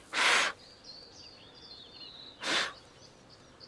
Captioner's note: blows sharply